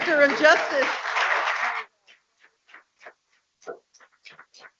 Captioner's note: people clapping